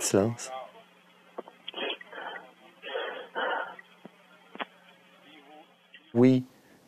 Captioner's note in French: respiration bruyante